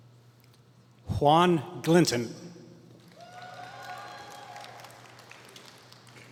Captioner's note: applause